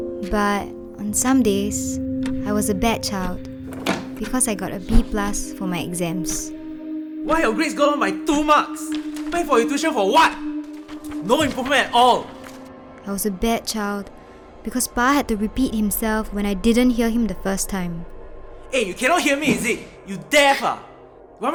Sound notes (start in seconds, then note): 3.2 door opens; 10.7 paper rustles